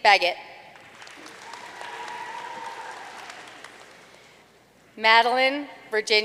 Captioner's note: audience cheering and applauding